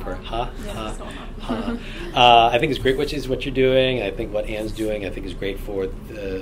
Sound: laughs

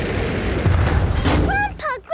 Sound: thuds

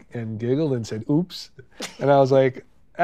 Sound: laughing

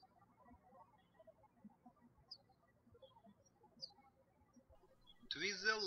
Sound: birds chirping

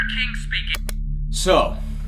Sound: button click off

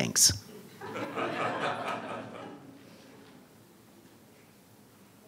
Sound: audience laughing

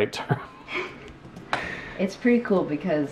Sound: giggles

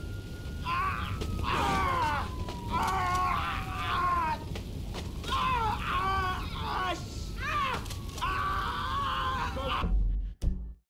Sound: fire sounds and sirens; Franklin screams

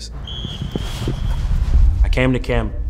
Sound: whistles

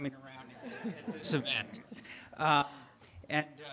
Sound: audience laughing

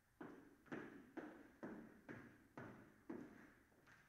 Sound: footsteps approaching

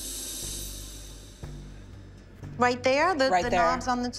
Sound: gas hissing

